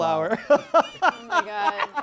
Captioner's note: laughing